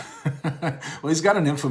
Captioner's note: chuckles